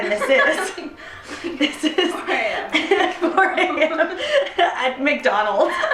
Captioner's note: laughing; louder laughing